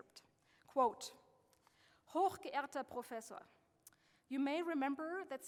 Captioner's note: speaking German